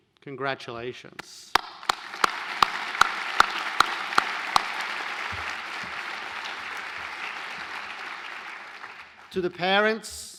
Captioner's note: applause